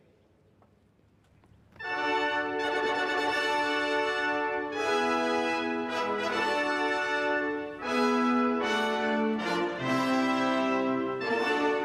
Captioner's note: speaking french